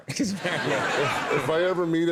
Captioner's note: audience laughs